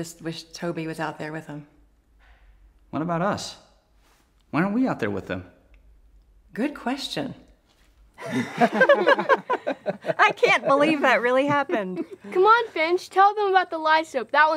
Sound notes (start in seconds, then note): 8.2 all laughing